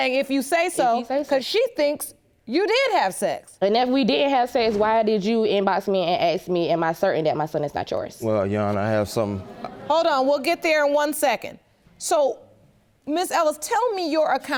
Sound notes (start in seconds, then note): 7.4 audience groans